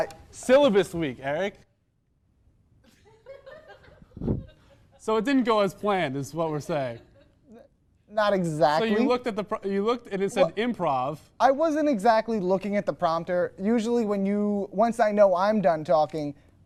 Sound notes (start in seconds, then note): 2.9 small audience laughter, visceral disappointment